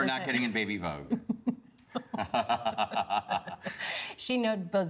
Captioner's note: both laugh